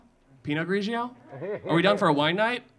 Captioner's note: audience laughing